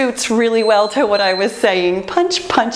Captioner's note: timer beeping